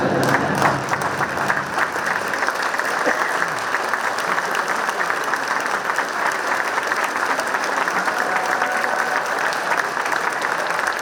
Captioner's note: clapping